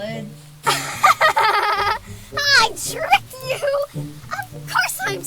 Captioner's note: laughs